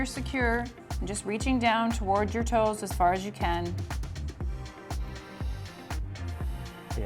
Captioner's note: taking deep breathes